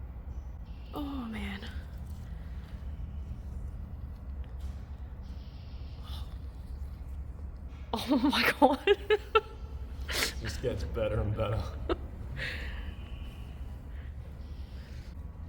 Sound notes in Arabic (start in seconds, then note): 8.0 ضحك عصبي